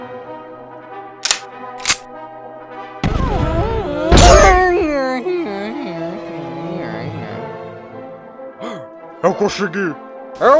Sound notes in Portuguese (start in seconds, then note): 1.8 Som de arma carregando; 3.0 Tiro distante; 8.6 Suspiro